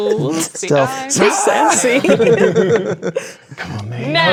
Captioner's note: players talking and laughing